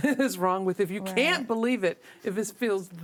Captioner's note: all laughing